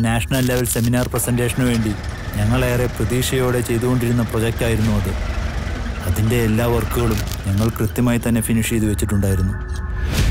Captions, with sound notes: 'It was a presentation for a national level seminar' 'We had pinned great expectations on it' (Engine Starts) 'We had anticipated every glitch with foresight and worked hard for it'